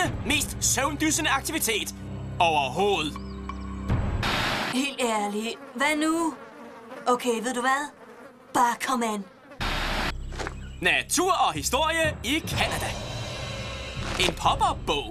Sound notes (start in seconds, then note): none